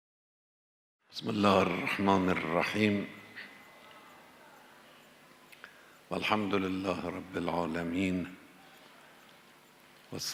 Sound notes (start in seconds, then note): 7.9 praying in Arabic